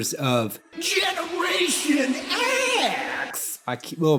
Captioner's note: yelling